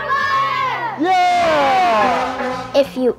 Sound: horn honking

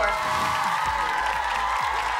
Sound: cheering

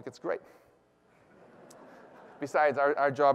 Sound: laughter

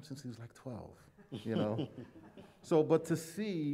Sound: laughter

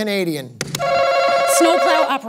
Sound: answer button rings

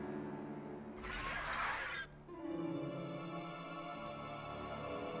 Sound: dinosaur roar

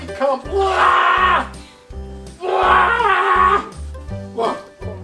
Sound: gagging; shark screams

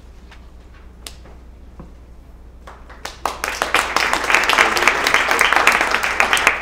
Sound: applause

